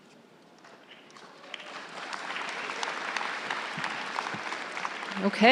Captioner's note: crowd applauding